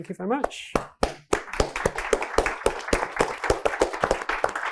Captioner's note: audience applauds